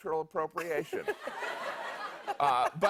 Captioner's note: laughter